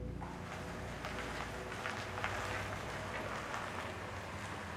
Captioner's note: tires crunching